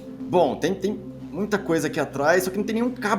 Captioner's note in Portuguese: none